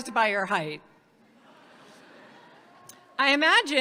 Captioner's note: audience laughs